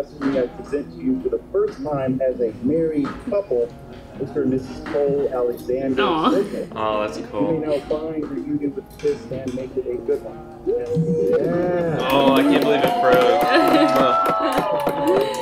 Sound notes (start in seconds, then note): 11.2 cheering